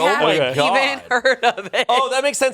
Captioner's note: laughs